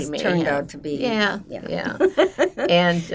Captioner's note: laughing